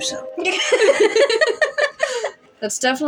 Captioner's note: both Laugh